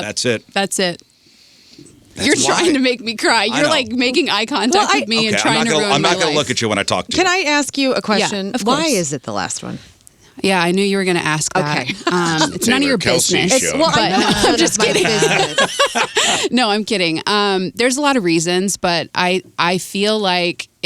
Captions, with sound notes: That's it. Yep, that's it. That's why. You're trying to make me cry. You're like making eye contact with me and trying to ruin my life. I'm not gonna look at you when I talk to you. Can I ask you a question? Yeah, of course. Why is it the last one? Yeah, I knew you were gonna ask that. Okay. It's none of your business. It's Taylor Kelsey's show. Well, I know, just kidding. (both laughing) No, I'm kidding. There's a lot of reasons, but I feel like